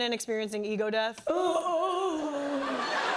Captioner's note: woman groans and moans; laughter